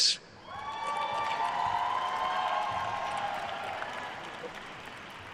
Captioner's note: attendees cheering and applauding